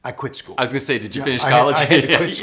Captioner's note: laughing